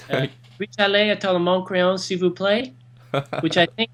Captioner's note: foreign language